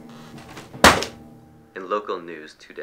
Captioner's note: folder slapping